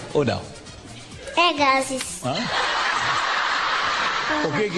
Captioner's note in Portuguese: risos